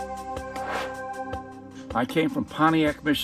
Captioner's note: air swooshes